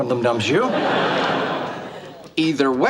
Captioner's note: audience laughs